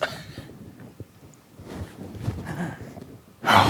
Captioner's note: gasps